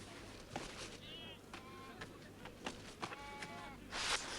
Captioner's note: goats bleating